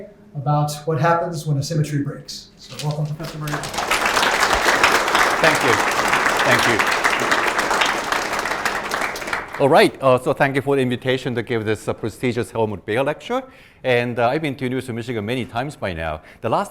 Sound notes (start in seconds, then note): 4.6 audience applauding